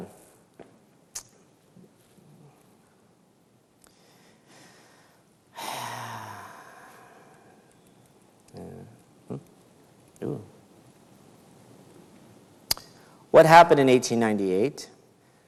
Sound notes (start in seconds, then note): 7.4 sighs